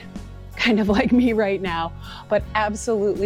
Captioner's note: laughing